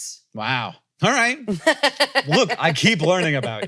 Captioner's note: laughs